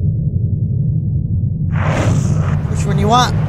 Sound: air whooshing

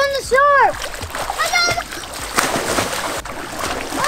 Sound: splashing

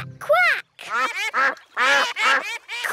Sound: quacking

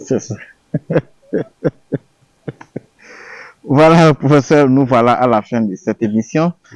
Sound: laughs

